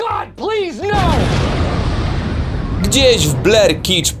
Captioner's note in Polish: boom!